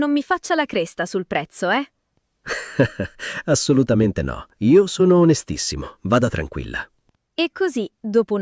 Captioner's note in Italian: risate